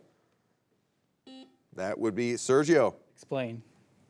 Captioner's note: buzzer beeps